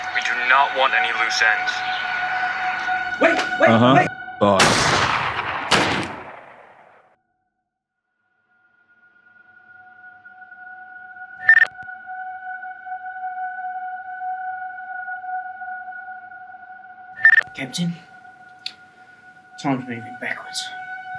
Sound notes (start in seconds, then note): 4.5 gunshot